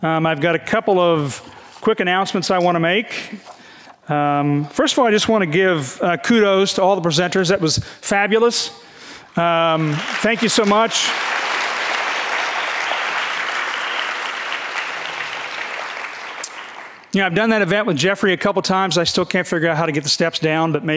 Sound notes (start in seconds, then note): 9.9 audience clapping